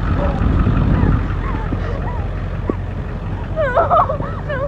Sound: Alexie pants

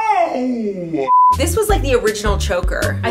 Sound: beeps

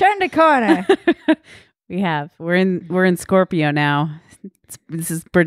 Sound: laughing

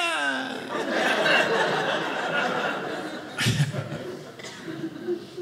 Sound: audience laughing

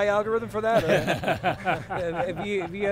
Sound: laughing

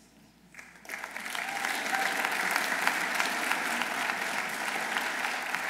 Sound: audience applauding

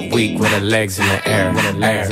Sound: huh, huh

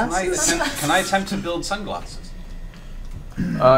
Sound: all laugh

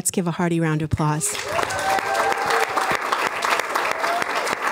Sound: applause

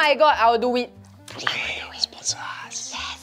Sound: whispers

